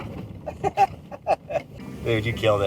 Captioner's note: laughs